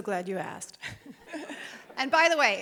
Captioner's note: group chuckling